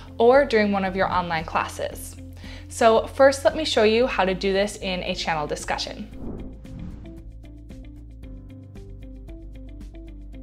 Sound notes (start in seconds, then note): 6.0 air whooshing